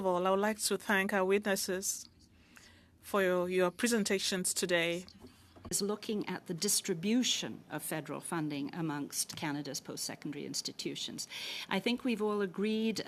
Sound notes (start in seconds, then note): 5.6 speaking French